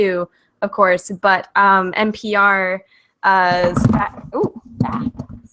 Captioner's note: banging